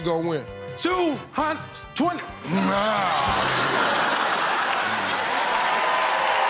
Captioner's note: laughter; cheers and applause